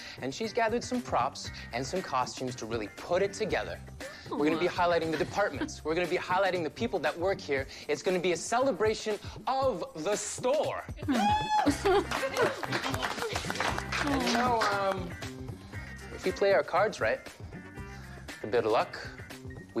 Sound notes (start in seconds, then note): 11.1 cheering, applause